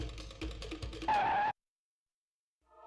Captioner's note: skidding